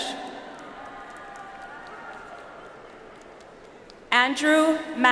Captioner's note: audience applauds